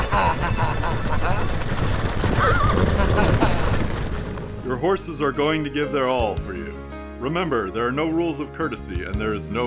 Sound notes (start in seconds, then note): 0.0 laughing; 3.1 whinnying